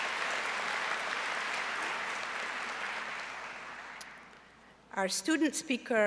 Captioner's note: applause